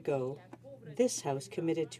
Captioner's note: speaking French